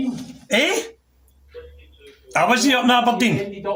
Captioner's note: talking on police radio